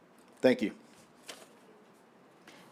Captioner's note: paper rustling